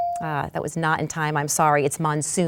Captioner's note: bell dings